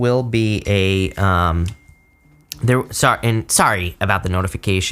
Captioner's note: phone dings